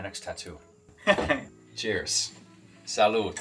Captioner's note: chuckling